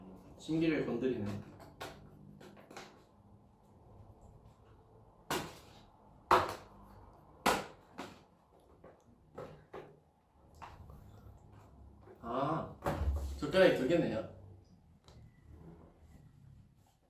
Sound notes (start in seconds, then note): 5.2 slaps